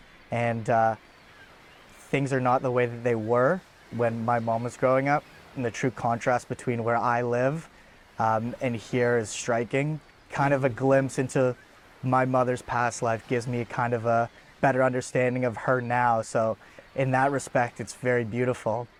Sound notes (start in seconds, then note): none